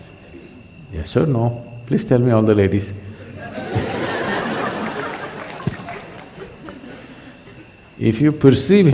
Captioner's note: laughter